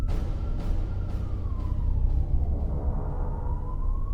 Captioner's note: distant sirens wailing; dramatic music